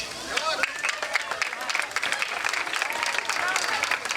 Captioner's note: crowd clapping